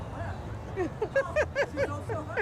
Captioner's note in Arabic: ضحك